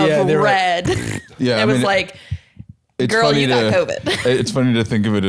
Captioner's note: blows raspberry